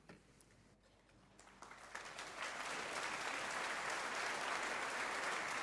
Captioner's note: audience applauding